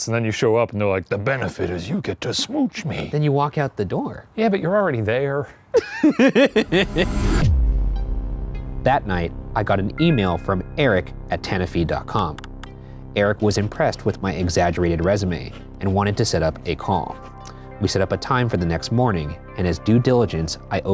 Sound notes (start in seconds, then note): 5.7 laughs